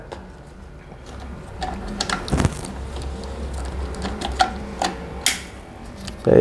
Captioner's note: damper noise